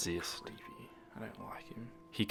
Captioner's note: whispers